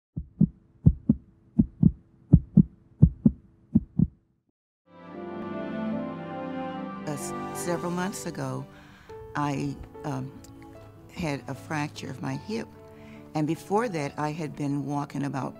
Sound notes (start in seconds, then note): 0.3 heart beating; 4.6 piano music